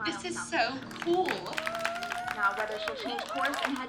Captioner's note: cheers and applause